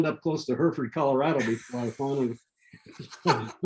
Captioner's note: laughing